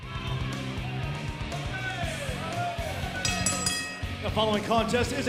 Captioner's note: bell ringing